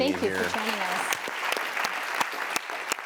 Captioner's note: applause